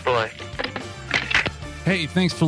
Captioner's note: phone clicks